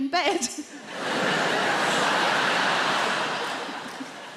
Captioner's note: crowd laughs